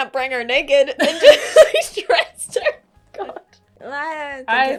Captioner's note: laughing